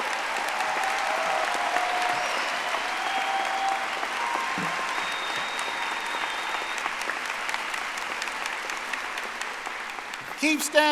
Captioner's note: audience applauding